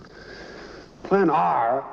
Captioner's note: sighing